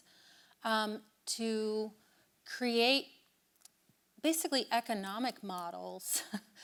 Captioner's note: chuckles